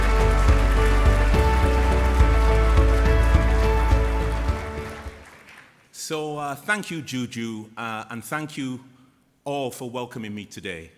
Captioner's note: applause